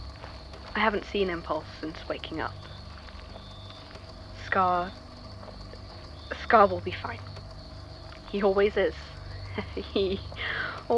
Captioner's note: laughs